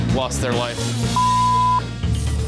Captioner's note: beep